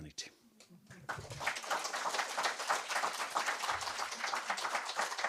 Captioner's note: applause